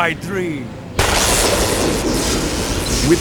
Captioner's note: lightning